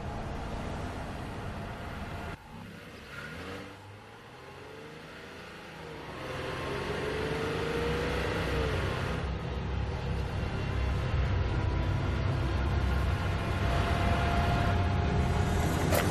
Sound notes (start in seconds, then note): 3.1 car engine revving; 11.5 ominous music